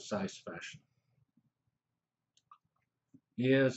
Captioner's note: pause